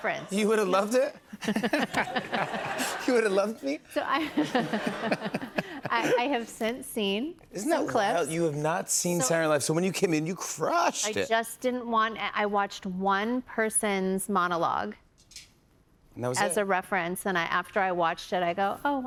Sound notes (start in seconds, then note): 1.3 laughter